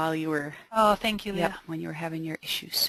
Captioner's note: voiceover